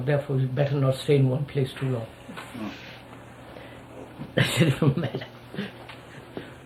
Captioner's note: laughs